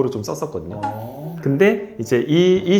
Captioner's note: sniff sniff